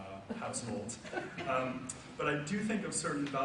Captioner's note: audience laughs